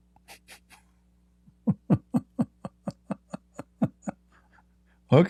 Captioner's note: Ketawa